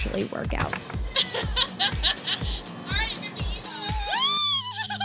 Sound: laughing and giggling

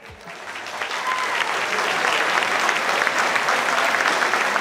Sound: audience clapping

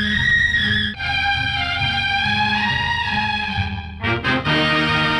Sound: none

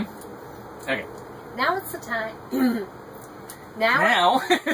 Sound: clears throat; laughs

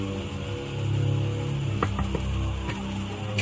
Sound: tense music; knocking on door; door opening

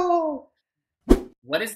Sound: whoosh

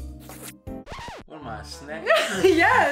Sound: record scratches; laughs

